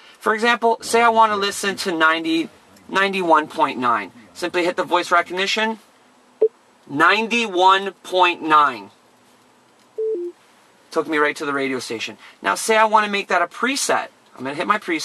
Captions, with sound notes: So, now that I'm on FM, for example say I want to listen to 91.9 Simply hit the voice recognition, (beep), "Ninety-One point Nine" Took me right to the radio station. Now say I want to make that a preset, I'm going to hit my preset button